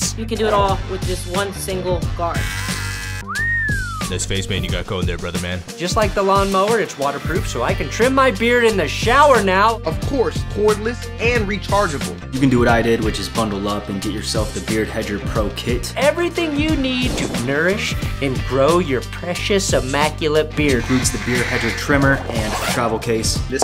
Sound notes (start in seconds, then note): 2.2 beard trimmer buzzing; 3.2 person whistling